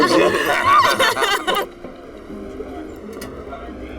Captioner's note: group laughs